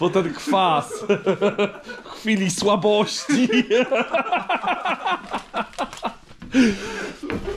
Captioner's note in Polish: śmiech